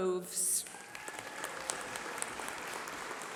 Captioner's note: applause